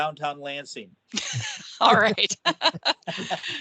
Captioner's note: laughing